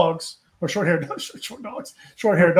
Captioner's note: laughs